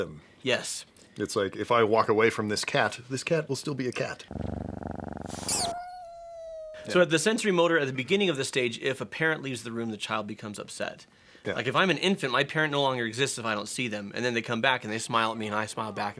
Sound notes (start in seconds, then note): 4.2 purrs; 5.3 danger boop